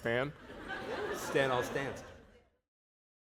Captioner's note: laughter